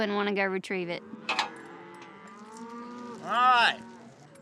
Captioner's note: mooing